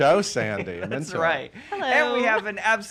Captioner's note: chuckles